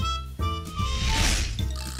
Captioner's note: whooshing